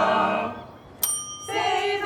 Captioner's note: bell dings